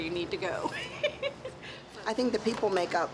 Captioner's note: laughing